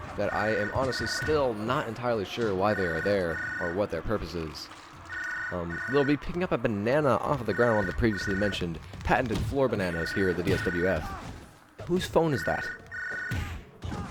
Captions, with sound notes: That I am honestly still not entirely sure why they are there, or what their purpose is?.. Uhm, Lil B picking up a bananna off of the ground, one of the previously mentioned pattented floor banannas here at the DSWF. *Phone still ringing* Who's phone is that?